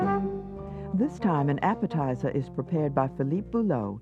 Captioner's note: voiceover